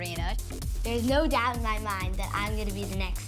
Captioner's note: none